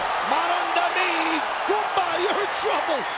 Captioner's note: speaking in foreign language